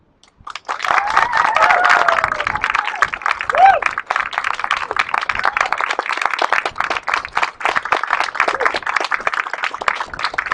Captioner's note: applause